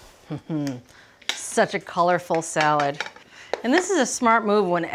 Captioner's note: laughing